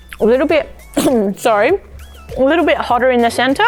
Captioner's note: coughs